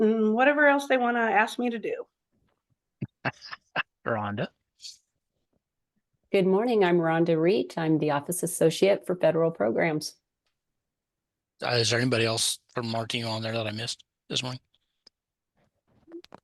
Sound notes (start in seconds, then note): 3.0 participant laughs